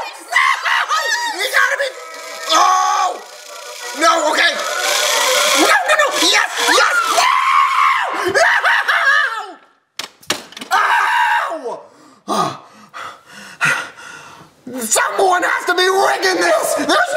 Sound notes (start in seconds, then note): 3.2 yells; 6.8 yells; 10.0 banging; 12.5 panting